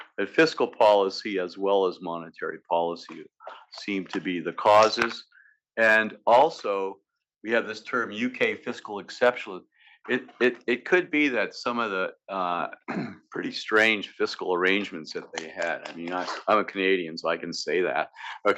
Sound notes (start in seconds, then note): 12.8 cough